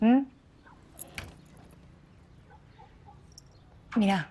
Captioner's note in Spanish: Puerta se abre